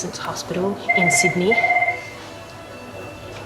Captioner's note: phone rings